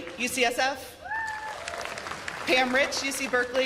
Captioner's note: cheers and applause